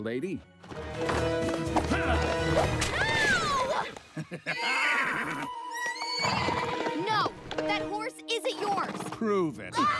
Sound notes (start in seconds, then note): 0.6 dramatic music; 1.4 man grunts; 4.1 evil laughter; 4.5 horse neighs; 4.5 horse squeals